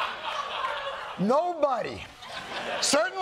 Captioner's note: laughter